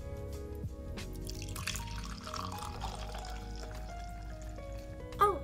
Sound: coffee pouring

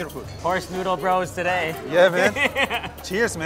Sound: laughs

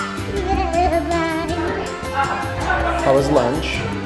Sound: upbeat music; children talking

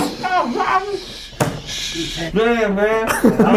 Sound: laughing

